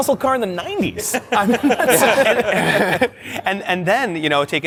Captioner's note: laughter